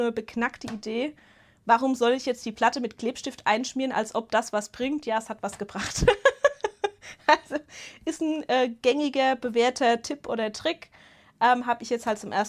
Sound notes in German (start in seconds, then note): 5.8 Gelächter